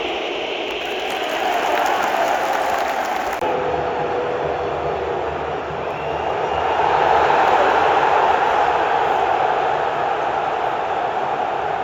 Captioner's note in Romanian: Aplauze